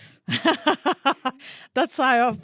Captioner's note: laughing